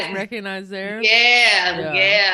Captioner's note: laughing